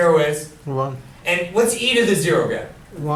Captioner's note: voiceover